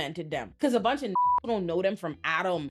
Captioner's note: beep